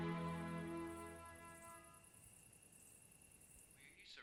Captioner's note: insects chirping